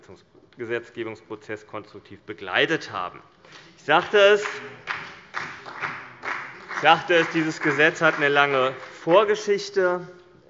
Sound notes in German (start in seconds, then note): 4.0 Beifall bei Abgeordneten des BÜNDNISSES 90/DIE GRÜNEN und der FDP